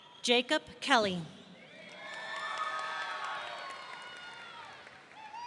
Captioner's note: audience cheering